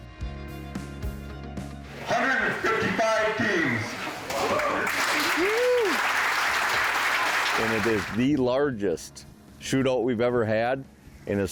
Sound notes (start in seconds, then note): 1.5 upbeat rock music; 4.1 crowd applauds and cheers